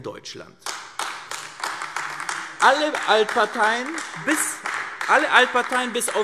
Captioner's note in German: Beifall AfD